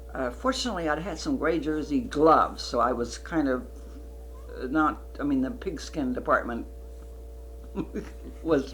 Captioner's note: laughs